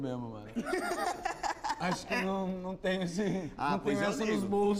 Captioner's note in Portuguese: risos